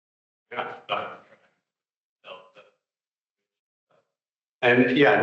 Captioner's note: audio cutting out